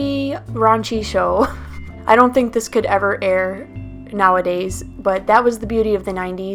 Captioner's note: laughs